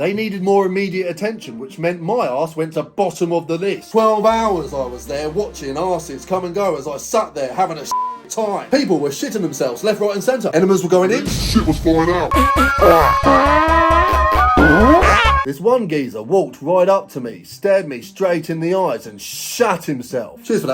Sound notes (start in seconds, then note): 7.9 beep